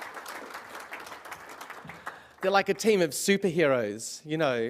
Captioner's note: applause